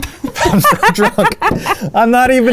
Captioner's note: both laughing